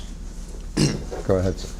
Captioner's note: clears throat